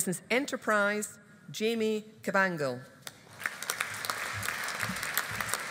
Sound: audience applauding

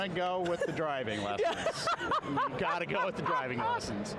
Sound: laughing

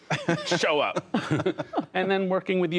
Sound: laughter

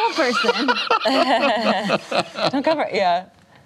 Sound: laughter

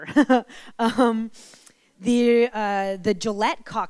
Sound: giggles

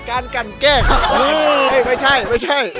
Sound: laughs; pat

